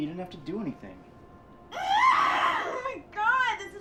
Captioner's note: groaning